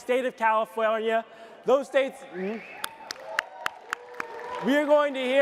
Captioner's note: audience cheering